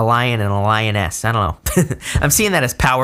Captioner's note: laughs